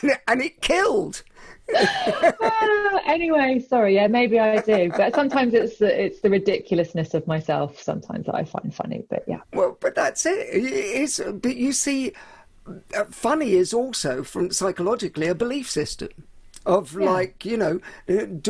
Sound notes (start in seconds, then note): 0.0 laughs; 1.7 laughs